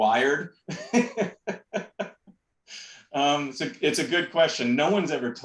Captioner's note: laughter